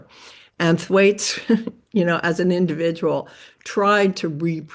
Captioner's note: chuckles